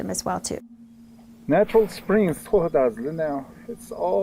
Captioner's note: speaks in Navajo